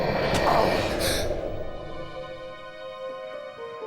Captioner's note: Gabriel gasps; tense music